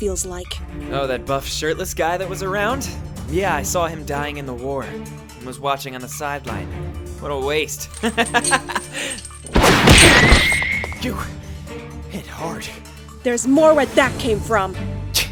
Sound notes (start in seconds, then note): 8.0 laugh